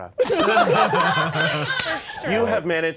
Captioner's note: all laughing